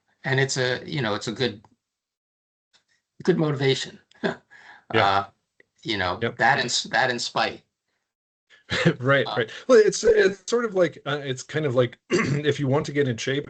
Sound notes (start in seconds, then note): 8.6 chuckling